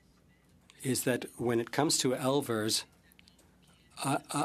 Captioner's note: speaking French